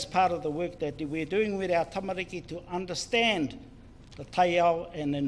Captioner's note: speaks in foreign language